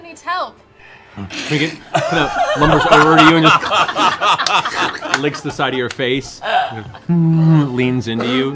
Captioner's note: slurp; bear groan